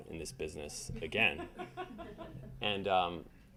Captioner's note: audience laughing